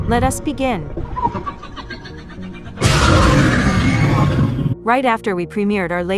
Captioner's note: demogorgon cries